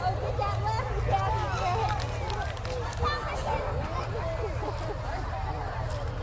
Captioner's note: revving and chattering continue